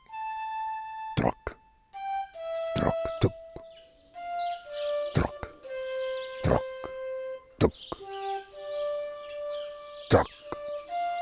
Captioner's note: pegleg clattering on cobblestone